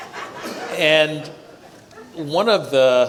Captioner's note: audience laughs